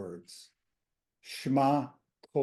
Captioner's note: hebrew